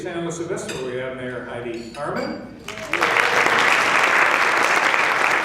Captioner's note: applause